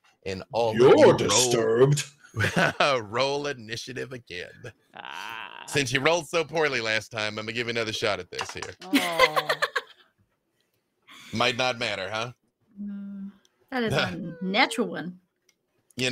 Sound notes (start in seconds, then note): 2.4 laughs; 8.8 laughing